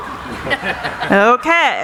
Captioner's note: laughing